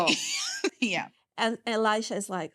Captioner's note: chuckling